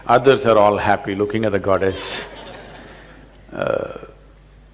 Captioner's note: laughter